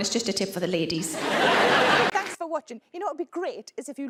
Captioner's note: audience laughs